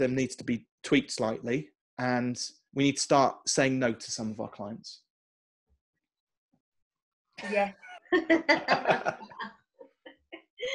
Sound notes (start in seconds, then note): 7.4 laughs